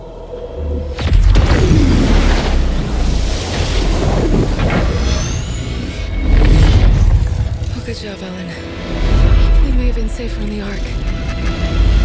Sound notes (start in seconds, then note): 0.9 robotic Noises